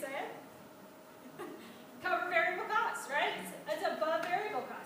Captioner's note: laughs